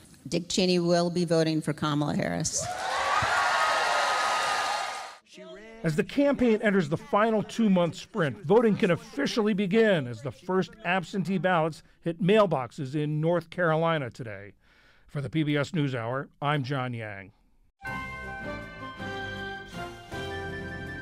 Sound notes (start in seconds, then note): 5.8 applause; 5.8 cheering